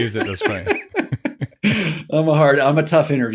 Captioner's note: laughing